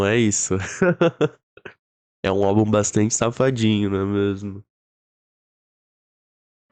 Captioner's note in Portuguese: risos